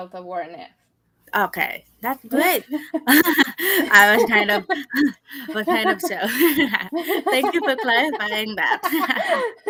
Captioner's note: both laughing